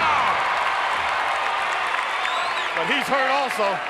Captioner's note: crowd cheering